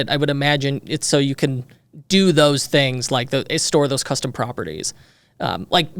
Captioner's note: none